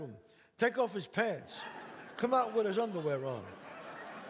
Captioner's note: audience laughs